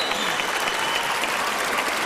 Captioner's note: applause